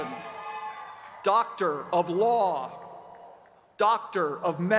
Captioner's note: cheers and applause